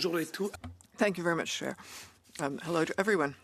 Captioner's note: speaking in French